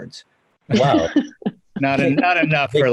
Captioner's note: laughs